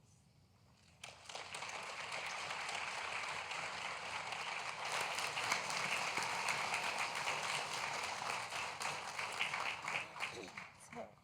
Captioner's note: applause